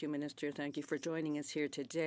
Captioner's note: speaking French